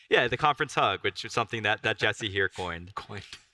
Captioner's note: laughs